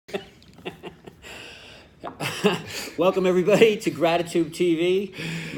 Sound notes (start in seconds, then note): 0.2 laughing